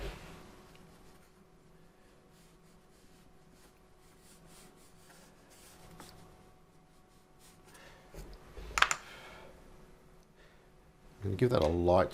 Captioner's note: silence